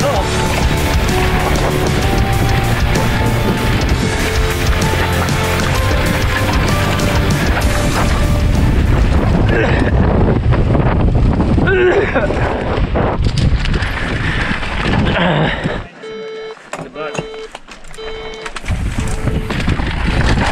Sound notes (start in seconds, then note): 0.2 dramatic music; 9.9 coughing; 13.1 air whooshing; 15.0 coughing; 17.6 air whooshing